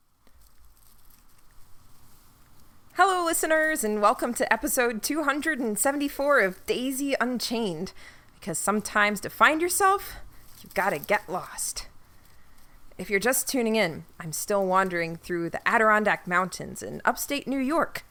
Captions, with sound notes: (SFX: Crackling leaves) Daisy: (excitedly) Hello listeners, and welcome to episode 274 of Daisy Unchained, because sometimes to find yourself, you've gotta get lost. If you're just tuning in, I'm still wandering through the Adirondack Mountains in upstate New York.